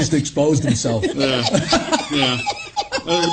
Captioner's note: laughs